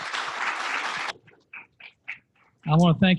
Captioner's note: applause